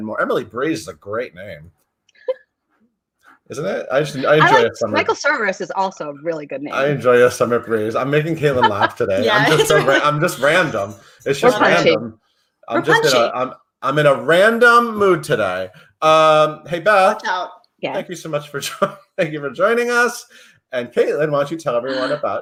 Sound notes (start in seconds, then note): 20.2 laughs